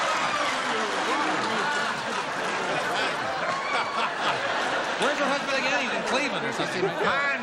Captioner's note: laughter